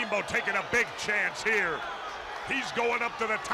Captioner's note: crowd cheering